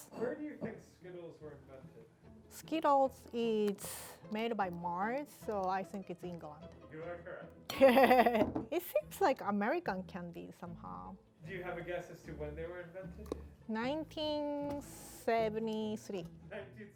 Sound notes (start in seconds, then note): 7.7 laughs